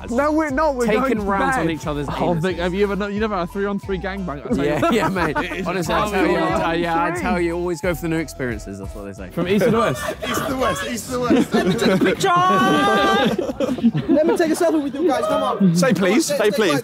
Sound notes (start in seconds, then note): 4.0 indistinct chattering; 13.2 all laughing; 16.6 indistinct chattering